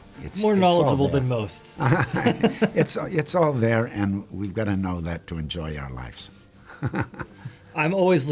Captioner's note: laughs